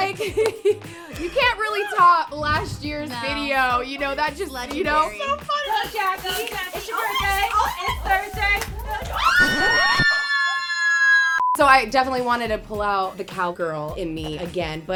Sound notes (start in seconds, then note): 0.1 hosts laugh; 8.9 hosts scream